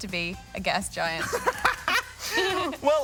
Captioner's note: chuckles